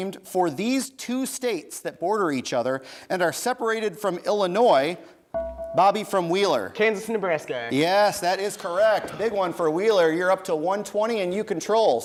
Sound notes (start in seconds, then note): 5.3 bell rings